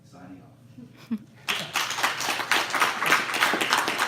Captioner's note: applause